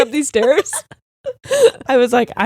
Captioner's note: both laughing